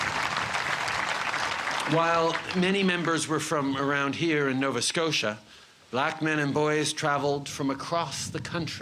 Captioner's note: cheers and applause